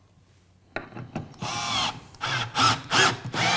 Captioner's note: drilling noises